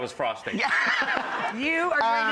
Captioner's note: laughing